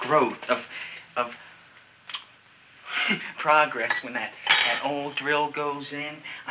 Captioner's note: chuckles